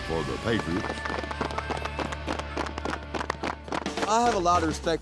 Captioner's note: applause